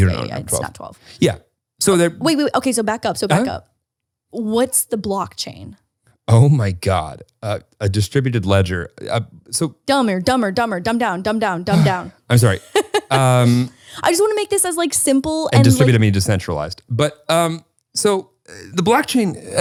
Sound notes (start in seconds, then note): 7.2 laughs; 12.5 laughs; 13.1 sighs